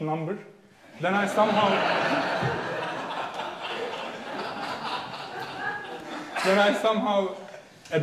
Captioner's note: audience laughing